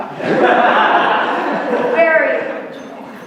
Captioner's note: laughter